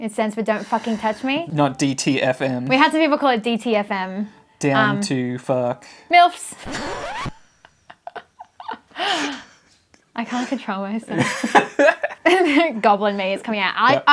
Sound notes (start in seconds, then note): 6.6 record scratch; 11.2 chuckles